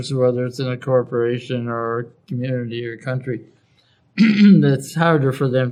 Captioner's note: cough